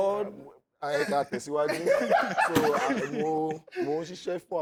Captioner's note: laughs